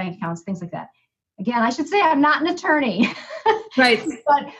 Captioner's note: chuckles